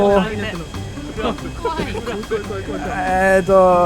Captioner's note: crowd fears